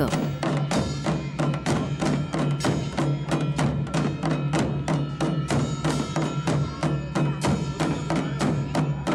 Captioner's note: bells jingling; moves into gentle music; soft drumming